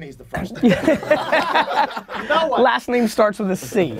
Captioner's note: group laughter